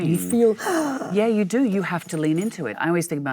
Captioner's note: Michelle sighs